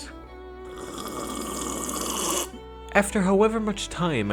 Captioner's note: violently sips tea